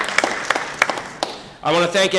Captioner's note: crowd applauding